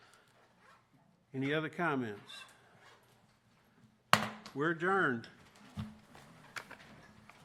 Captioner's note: gavel